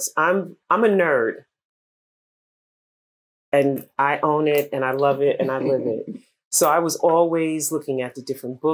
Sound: laughter

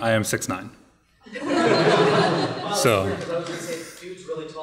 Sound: audience laughing

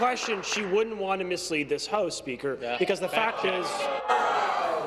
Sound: applause

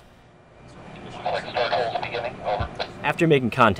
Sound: man on radio

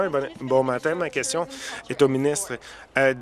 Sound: applause

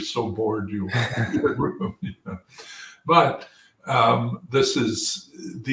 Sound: laugh

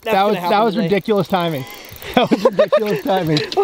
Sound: laughs

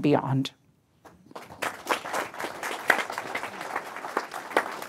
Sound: audience applauding

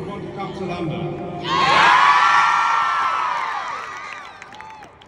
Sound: more cheers and excitement

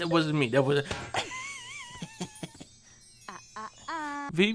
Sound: laughs

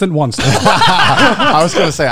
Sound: laughing

